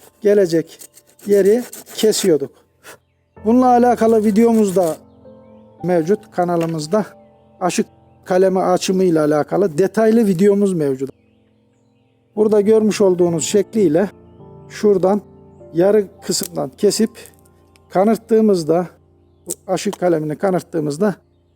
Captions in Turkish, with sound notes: gelecek (testere kesim sesleri kırt kırt kırt) yeri kesiyorduk. (testere kesim sesleri kırt kırt kırt) Bununla alakalı videomuzda mevcut, kanalımızda. Aşı kalemi açımı ile alakalı detaylı videomuz mevcut. Burada görmüş olduğunuz şekli ile şuradan yarım kısımdan kesip, kanırttığımızda aşı kalemini kanırttığımızda